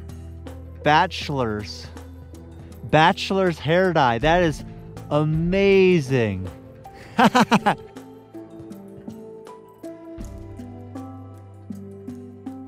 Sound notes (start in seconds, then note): 7.0 chuckling; 8.6 relaxing instrumental music